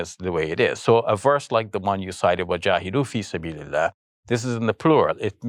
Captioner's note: speaking Arabic